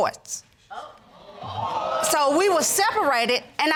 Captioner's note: audience exclaiming